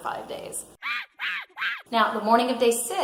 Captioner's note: monkey screeching